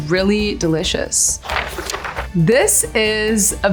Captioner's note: paper crinkling